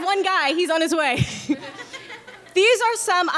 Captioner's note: laughs